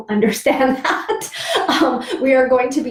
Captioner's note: laughs